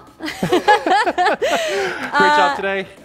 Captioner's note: both laughing